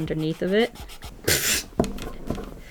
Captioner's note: laughs